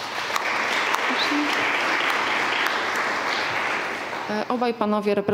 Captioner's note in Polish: oklaski